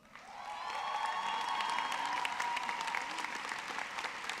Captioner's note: audience clapping